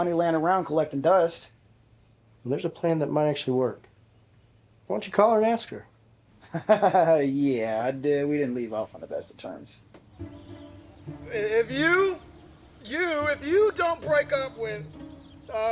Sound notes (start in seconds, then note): 6.4 laughs; 10.0 playful music